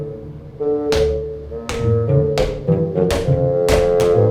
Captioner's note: hitting